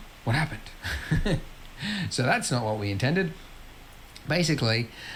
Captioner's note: laughs